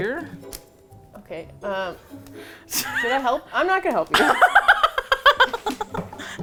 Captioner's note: laughs